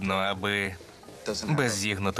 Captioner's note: laughs